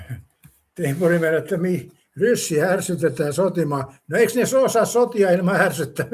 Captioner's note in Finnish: naurua